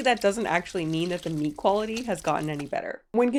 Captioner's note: squirting